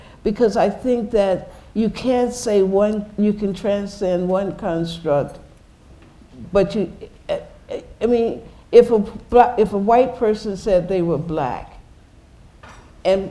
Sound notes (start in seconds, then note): none